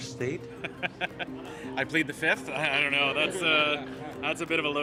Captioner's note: laughter